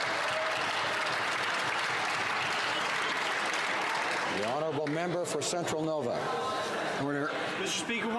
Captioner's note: some Applause